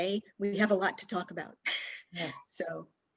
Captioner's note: laughs